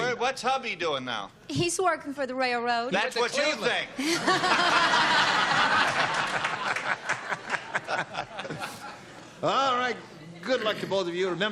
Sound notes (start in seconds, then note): 3.9 laughter